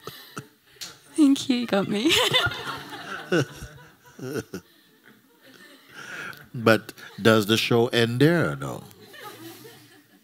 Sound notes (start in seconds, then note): 4.3 more laughter; 8.9 laughter